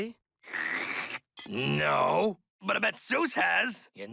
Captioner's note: slurps